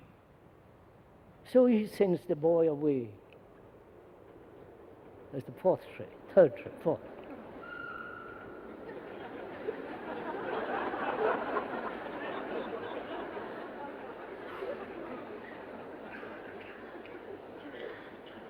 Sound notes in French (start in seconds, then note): 3.6 Bruit de train; 10.0 Rires